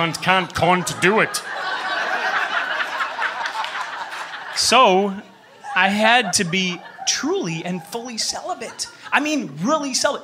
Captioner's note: laughter